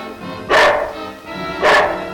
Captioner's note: dog Barking